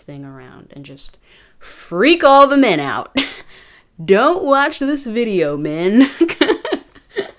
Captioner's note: chuckles; chuckling intensifies